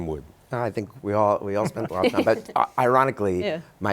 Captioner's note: guests laugh